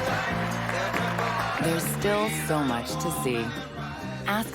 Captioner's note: applause